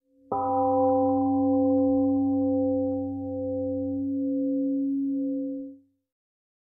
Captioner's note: temple gong rings and fades